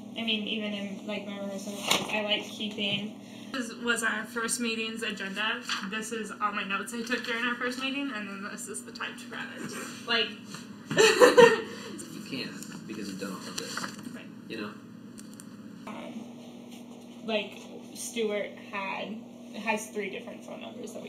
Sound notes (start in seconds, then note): 10.9 laughs